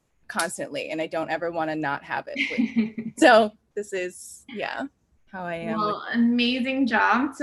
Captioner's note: laughs